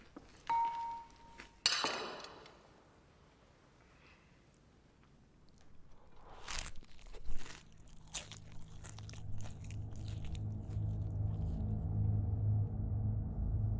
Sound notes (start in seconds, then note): 2.2 plate clanking; 11.0 dramatic music